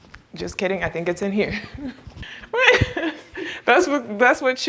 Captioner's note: laughs